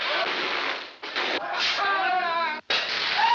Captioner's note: screams